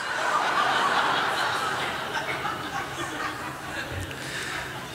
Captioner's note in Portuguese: Risos